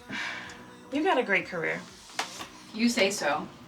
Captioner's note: sighing